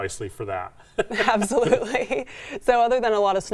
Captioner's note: both giggle